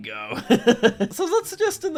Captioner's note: laughing